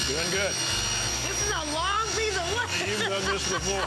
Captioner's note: laughing